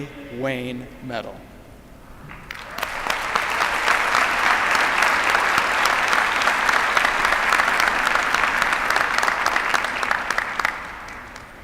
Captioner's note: applause